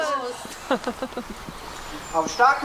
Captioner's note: laughter